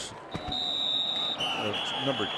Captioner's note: whistle